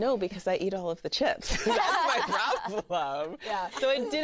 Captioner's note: laughter